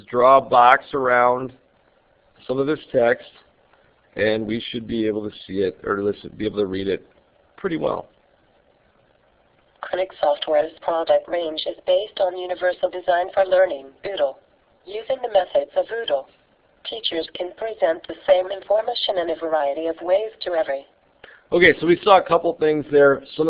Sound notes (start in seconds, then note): 9.5 computer reading